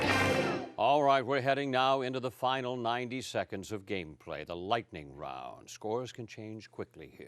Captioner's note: cheering and applause